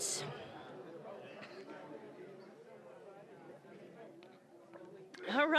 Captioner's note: general chatter